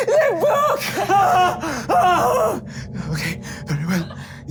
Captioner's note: screaming